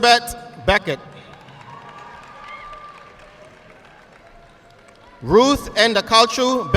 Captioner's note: audience clapping